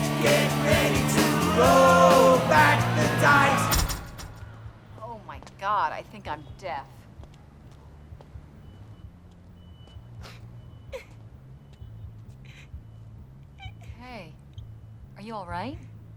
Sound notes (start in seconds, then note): 10.9 serena sobbing